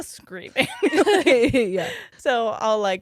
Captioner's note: both giggles